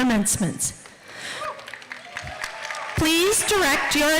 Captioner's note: applause